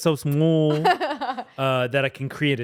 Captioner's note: laughs